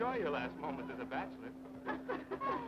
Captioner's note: laughter